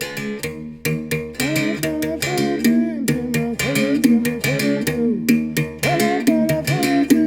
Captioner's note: foreign language